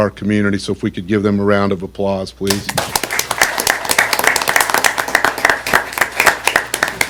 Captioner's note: applause